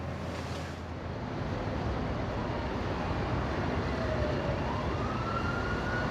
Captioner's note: siren Wailing In Distance